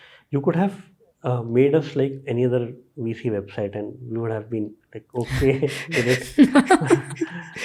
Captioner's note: chuckles